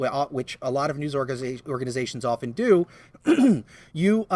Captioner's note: clears throat